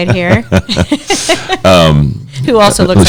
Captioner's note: laughs